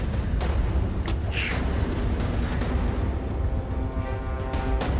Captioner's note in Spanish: Quejidos